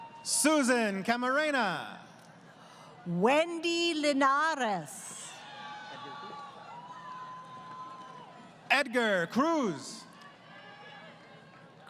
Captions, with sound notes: >> Susan Camarena. >> Wendy Lenares. [ Crowd Cheering ] >> Edgar Cruz.